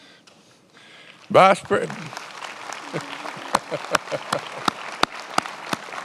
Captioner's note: attendees applauding